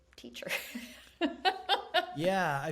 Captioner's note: laughing